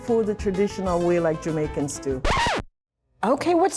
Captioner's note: record scratching